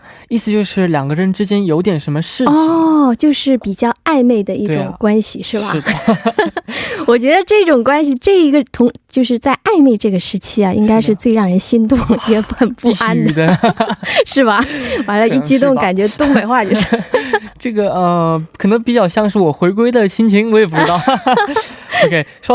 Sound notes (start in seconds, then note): 13.7 dongbei dialect